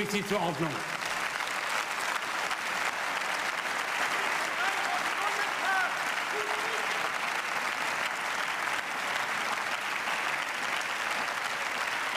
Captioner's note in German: Beifall